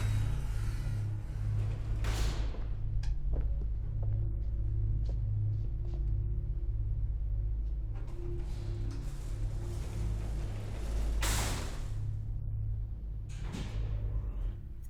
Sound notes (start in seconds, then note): 0.1 elevator dings; 2.3 elevator door rattles; 6.9 gentle foreboding music; 11.4 elevator door rattles